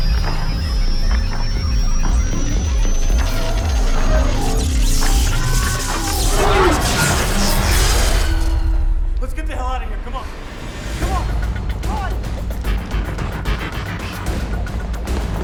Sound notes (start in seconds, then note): 0.0 computers beeping; 0.5 pulsing; 3.5 static crackling; 12.1 suspenseful music